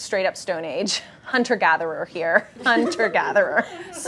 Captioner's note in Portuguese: risos